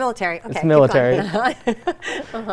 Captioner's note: laughs